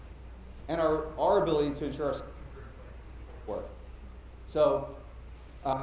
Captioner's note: mic cutting out